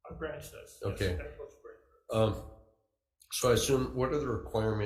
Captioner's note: faintly speaking